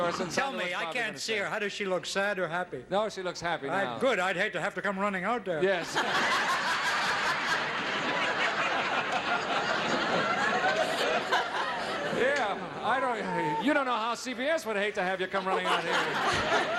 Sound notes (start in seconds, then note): 5.8 laughing; 15.2 laughing